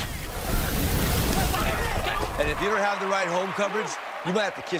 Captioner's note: fire whoosh